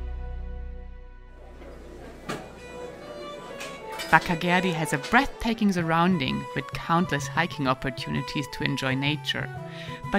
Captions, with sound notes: (voices murmuring) (lively music) Bakkageroi has a breathtaking surrounding with countless hiking opportunities to enjoy nature,